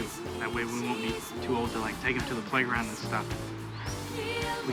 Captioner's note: none